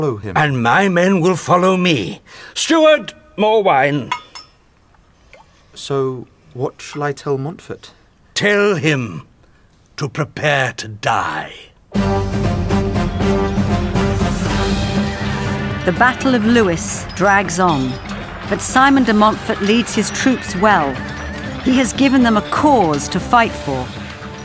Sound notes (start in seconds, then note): 5.3 pouring sound